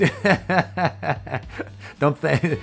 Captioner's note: laughs